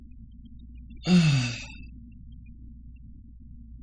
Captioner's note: sighs